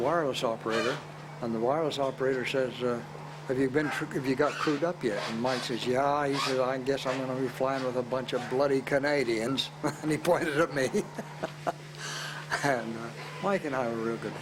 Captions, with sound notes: and the wireless operator says, "Have you got crewed up yet?" And Mike says, "Yeah, I guess I'm gonna be flying with a bunch of bloody Canadians." And he pointed at me (laughs). Mike and I were real good friends.